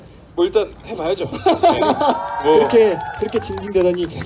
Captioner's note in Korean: 웃음; 함성